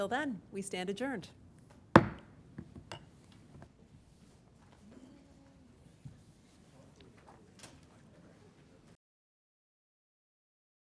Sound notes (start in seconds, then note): 1.9 gavel